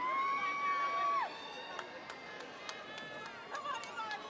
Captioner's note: audience cheering